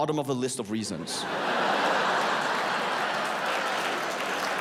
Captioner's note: audience laughs